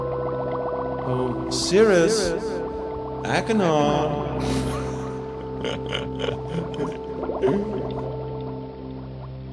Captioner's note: laughs